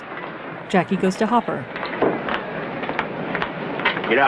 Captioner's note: cleats tapping